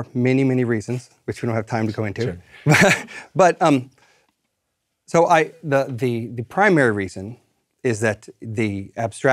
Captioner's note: laugh